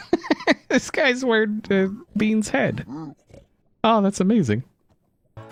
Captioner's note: laughs